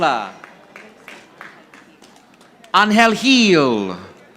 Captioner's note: audience applauding